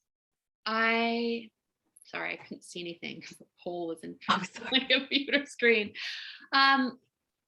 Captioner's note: laughs